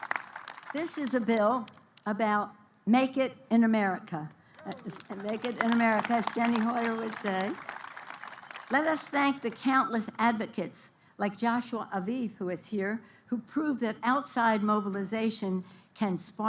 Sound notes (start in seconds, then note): 4.5 applause